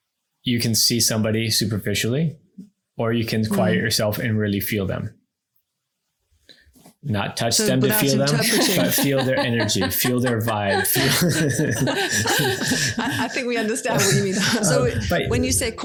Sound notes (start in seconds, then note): 7.6 laugh; 11.1 everyone laughs